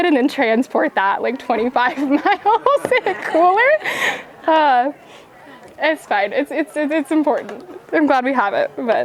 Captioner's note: laughing